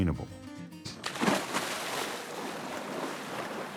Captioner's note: splashes